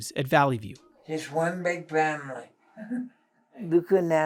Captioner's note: resident chuckles